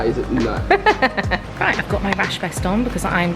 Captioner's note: laughs